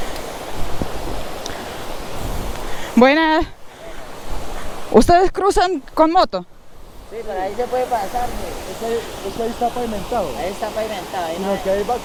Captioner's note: talking to the guys in Spanish